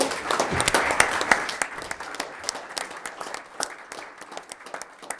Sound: attendees applauding

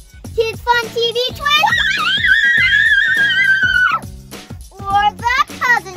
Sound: cheering

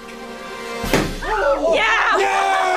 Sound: screams

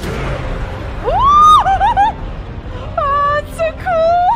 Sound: laughs hysterically

